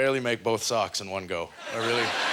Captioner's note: audience laughter